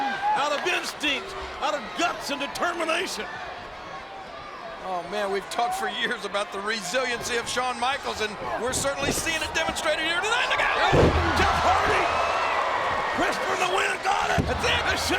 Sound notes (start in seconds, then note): 10.9 audience groans; 10.9 bodies thud